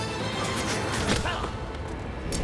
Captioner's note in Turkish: Ok sesi